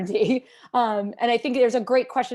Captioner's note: laughter